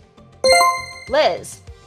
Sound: chime rings

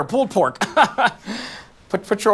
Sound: laughs

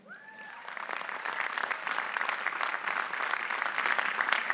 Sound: audience applauding

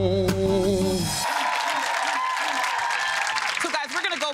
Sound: audience applauding

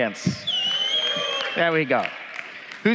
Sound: cheers

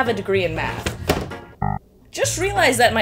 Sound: error sound effect

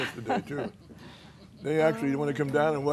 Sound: laughter

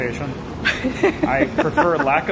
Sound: laughter

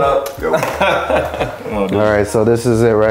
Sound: laughs

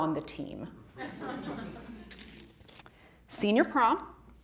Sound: audience laughing

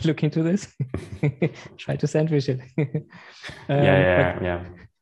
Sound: laughs

